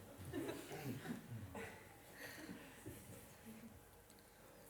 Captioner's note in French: rires